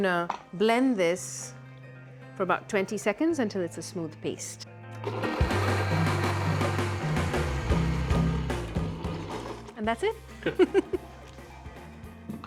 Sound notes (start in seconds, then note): 5.0 blender whirring; 8.2 whirring stops; 10.3 chuckles